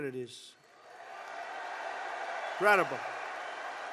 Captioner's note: applause